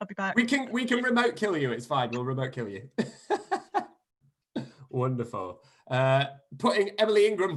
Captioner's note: laughter